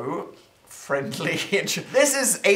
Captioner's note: laugh